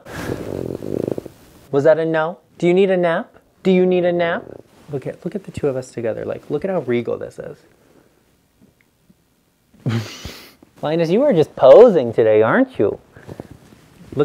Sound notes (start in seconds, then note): 0.0 snorts; 9.8 laughs